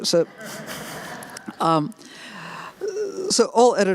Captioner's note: laughter